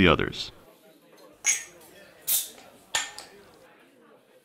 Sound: bottle cap pops off

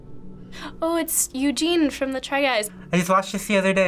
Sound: gasps

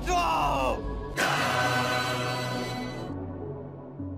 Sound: akira dun sound

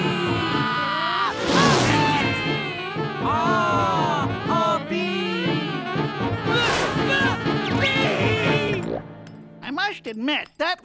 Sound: Burner screaming

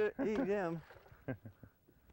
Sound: small laugh

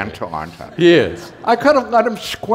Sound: laughter

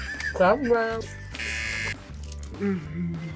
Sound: both laugh; buzzer

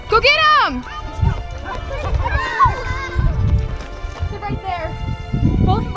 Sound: kids exclaim excitedly

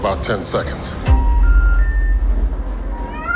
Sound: "No signal" sound

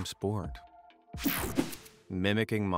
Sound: screen whooshing

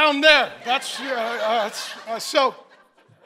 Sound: congregation laughing; stammers

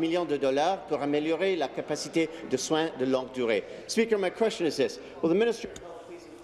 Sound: speaking in French

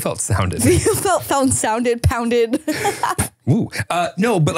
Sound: laughing

